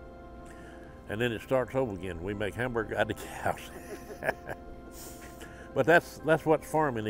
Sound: laughing

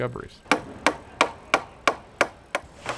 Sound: hammering

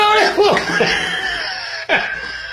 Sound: wheeeze; wheeze

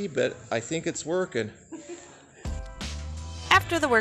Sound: laugh

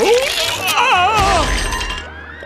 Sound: <i> crashes</i>

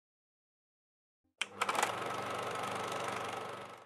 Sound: film reel rolling

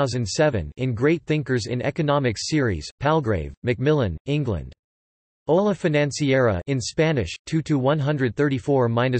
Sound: in Spanish

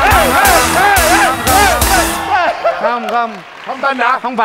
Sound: clapping

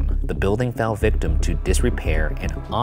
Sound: none

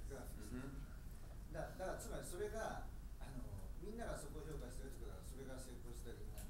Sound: speaking in foreign language

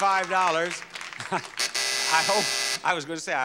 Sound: bell buzzing

